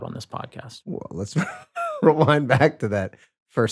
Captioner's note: chuckles